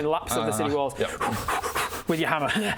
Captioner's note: pants